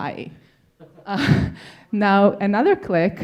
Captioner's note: audience laughing